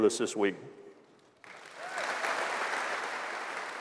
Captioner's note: applause